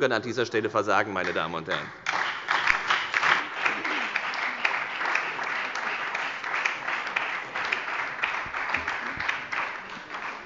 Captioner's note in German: Beifall bei der FDP, der SPD und der LINKEN